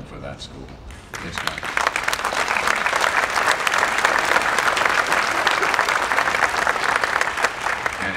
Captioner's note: applause